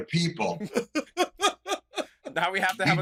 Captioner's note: laughter